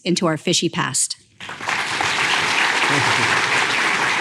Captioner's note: applause